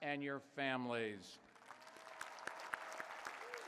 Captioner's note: applause